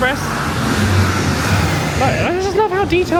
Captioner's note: dark sound effects blare